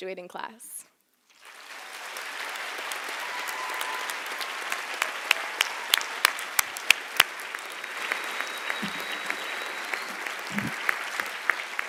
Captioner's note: applause